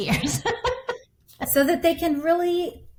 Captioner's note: laughing